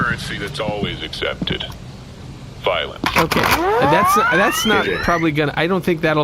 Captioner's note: charges blaster